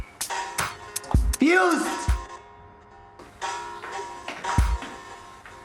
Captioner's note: shouts